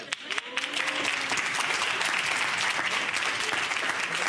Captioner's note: audience applauds